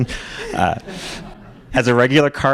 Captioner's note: laughter